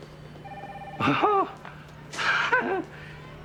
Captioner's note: Nash scoffing